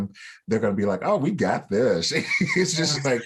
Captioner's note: laughter